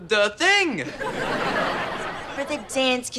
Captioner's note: audience laughter